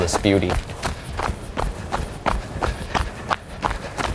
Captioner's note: sound of runner’s footsteps